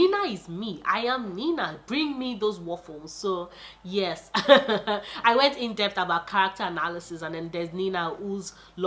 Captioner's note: laughs